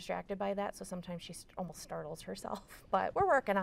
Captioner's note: laughs